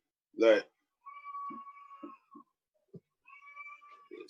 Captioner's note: child crying